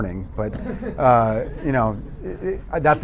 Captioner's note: laughter